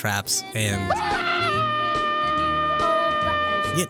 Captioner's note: man screaming